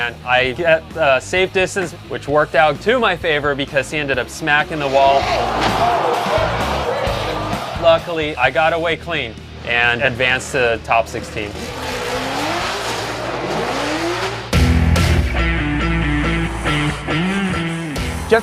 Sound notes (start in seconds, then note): 12.0 engines revving; 14.7 upbeat rock music